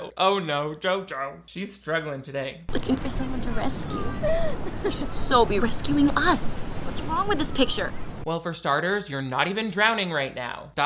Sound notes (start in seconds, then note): 3.3 laughs